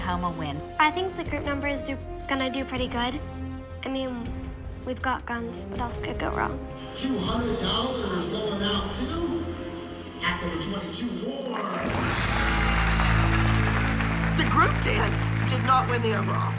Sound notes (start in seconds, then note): 11.6 cheering and applause; 11.7 tense music